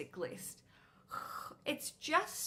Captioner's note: sigh